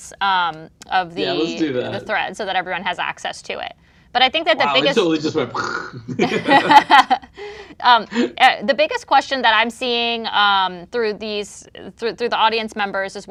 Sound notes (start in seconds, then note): 7.1 laughs